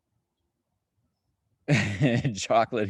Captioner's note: chuckling